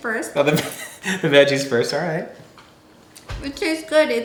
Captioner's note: laughs